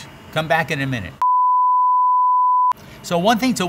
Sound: beeping

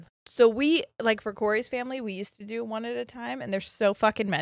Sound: none

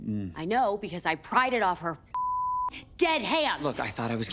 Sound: beep

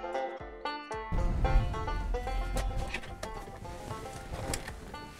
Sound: car engine roars

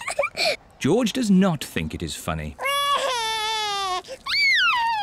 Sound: giggles; cries

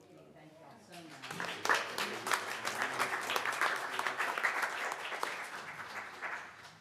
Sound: applause

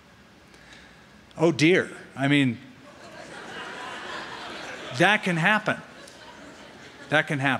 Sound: laughter

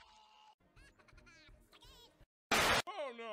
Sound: laughs

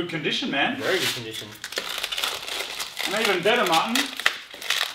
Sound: plastic rustling

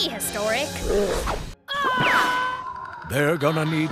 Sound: screaming

